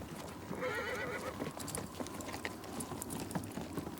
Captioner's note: wind whistles; horse neighs